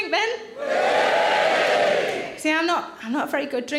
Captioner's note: audience cheers